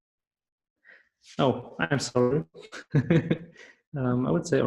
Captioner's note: laughs